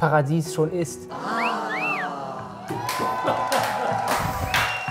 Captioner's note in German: Pfiffe, Jubel, Applaus